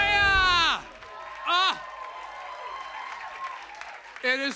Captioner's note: cheers and applause